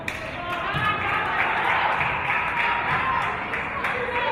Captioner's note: applause and cheers